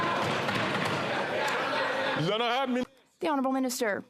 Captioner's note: applause